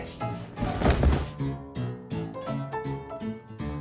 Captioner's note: body thuds; upbeat saloon music continues